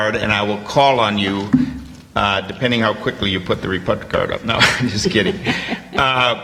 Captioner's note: laughs